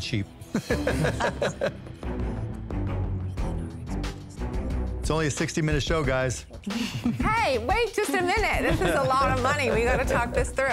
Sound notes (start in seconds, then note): 0.5 laughter; 1.5 whispering